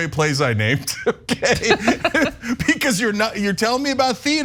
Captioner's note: laugh